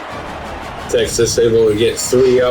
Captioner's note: crowd Noises